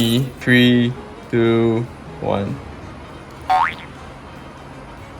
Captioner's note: spoink